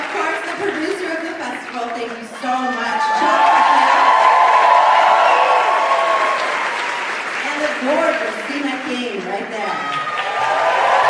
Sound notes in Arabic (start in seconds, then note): 5.3 الحشد يهتف بصوت أعلى